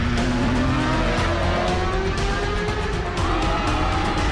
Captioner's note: bike engine roaring